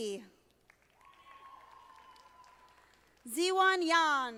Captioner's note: audience applauding